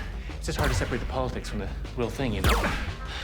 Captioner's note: grunts